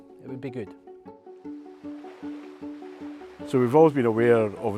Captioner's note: water swishing